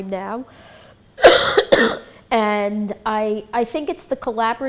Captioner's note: coughs